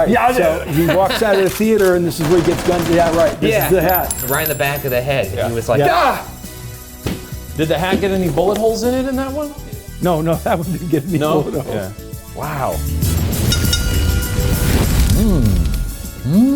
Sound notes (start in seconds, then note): 0.5 laughing; 2.2 machine gun rattling; 7.0 body thumping; 10.1 laughing; 13.4 bell dinging; 14.6 flames roaring